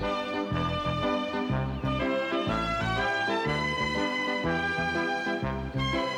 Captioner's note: children chattering